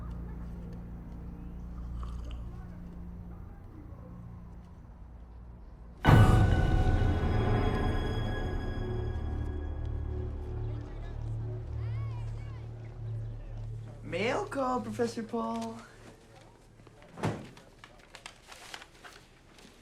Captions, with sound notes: (Karasic sipping) (loud menacing music) (students chattering) - Mail call, Professor Paul.